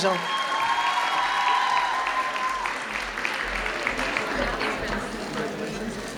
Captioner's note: audience cheering loudly